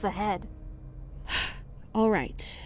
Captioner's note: sigh